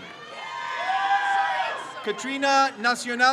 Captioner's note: crowd cheers